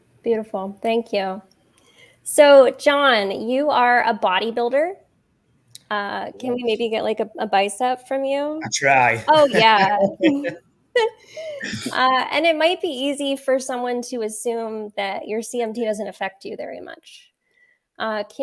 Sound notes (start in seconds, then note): 8.6 laughs; 11.4 chuckles